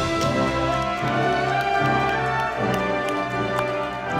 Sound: audience applauding

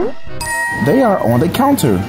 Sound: bell dings

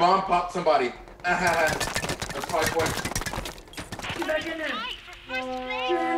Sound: laugh

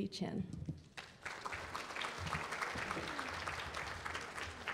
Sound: applause

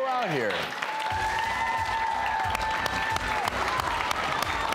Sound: applause

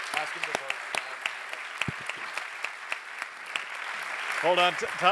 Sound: applause

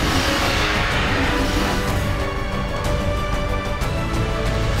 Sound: dinosaurs roaring

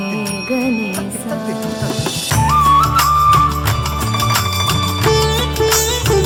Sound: applause

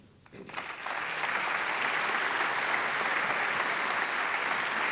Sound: applause

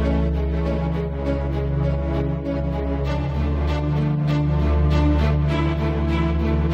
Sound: none

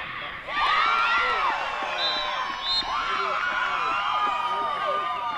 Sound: cheering

